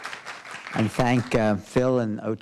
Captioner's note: applause